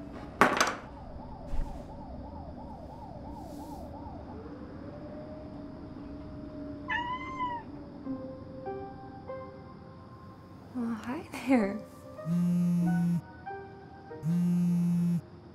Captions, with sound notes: (siren blaring) (cat mewing) (gentle piano music) Well, hi there. (phone vibrating)